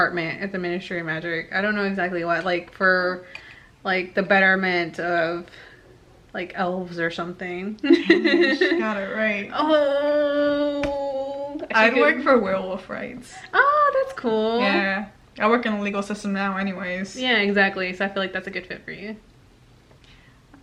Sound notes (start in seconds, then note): 10.5 giggles